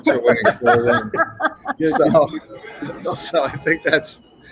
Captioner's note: laughter